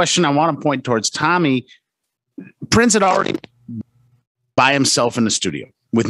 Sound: static

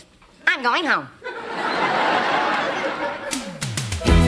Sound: audience laughter

